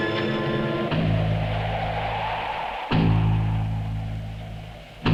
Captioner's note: wind whooshing; tense music continues